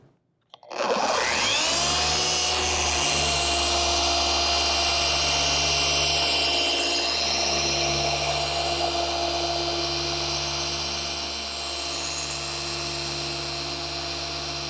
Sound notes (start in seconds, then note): 1.0 machine humming